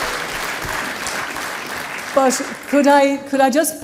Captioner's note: applause